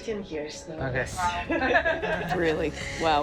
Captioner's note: laughing